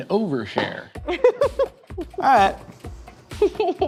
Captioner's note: laughs